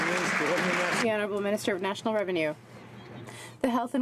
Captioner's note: some Applause